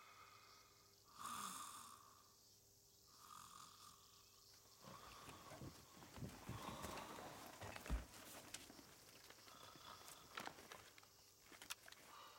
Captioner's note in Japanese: いびき